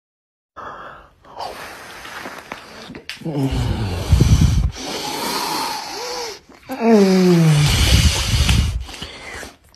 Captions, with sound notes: Mmm.. *I N H A L E* MMMMMMMMMMMMMMMMMMMMMMMMMMMMMMMMMMM *quick inhale* *swallow*